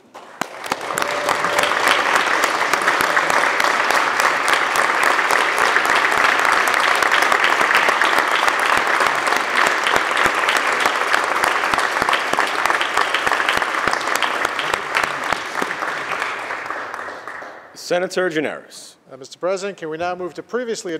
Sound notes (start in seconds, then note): 3.4 applause